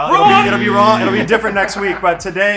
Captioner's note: buzzer beeps